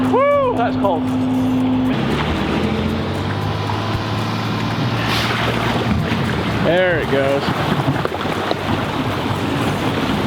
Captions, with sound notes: - Woo that's cold. (engine whirs) (water splashing) There it goes.